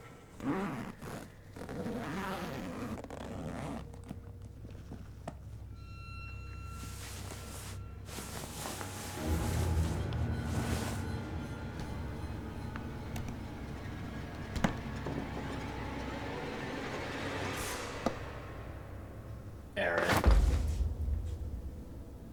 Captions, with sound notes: [unzipping bag] [dark music] [footsteps approaching] Erin?